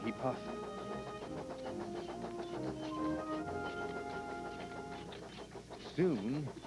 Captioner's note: squeaking and rattling begin